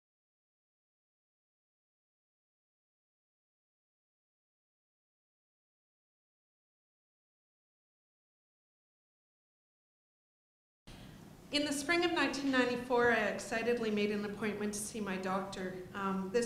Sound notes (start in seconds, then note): 0.0 silence